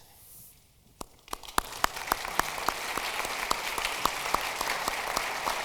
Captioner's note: audience applauding